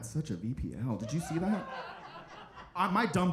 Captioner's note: audience laughing